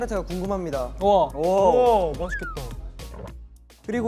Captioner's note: gulp